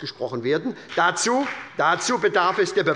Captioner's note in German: Beifall bei der SPD und der FDP